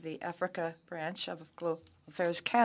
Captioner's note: speaking French